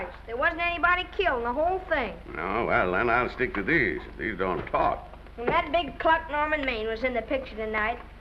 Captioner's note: none